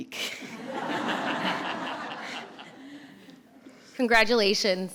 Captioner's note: audience laughs